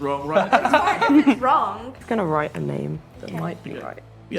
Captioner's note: laughing